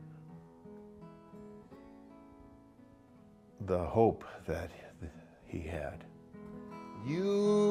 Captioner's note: with much emotion